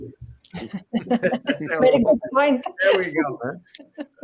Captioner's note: group laughs